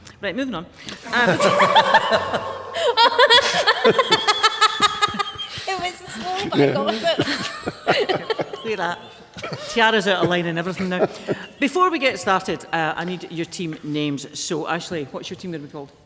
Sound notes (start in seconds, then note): 4.4 laughter; 6.0 laughs